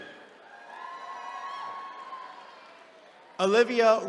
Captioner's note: attendees cheering